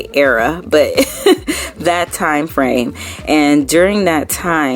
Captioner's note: laughing